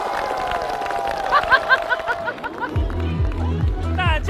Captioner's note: hahahahahaha